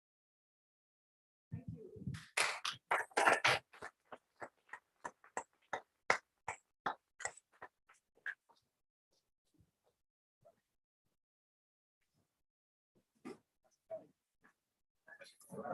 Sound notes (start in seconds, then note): 2.1 applause